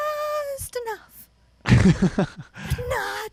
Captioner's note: laughs